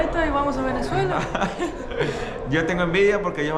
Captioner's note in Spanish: Risas